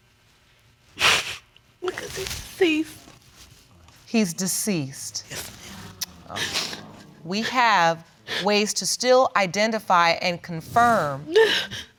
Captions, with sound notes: (SOBBING) Because he's deceased. He's deceased. We have ways to still identify and confirm